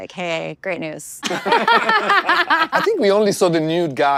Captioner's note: everyone laughs